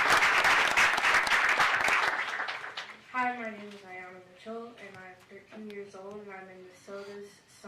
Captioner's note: applause